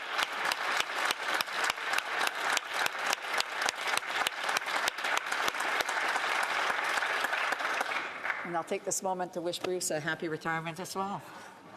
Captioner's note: applause